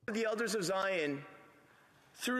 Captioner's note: speaking French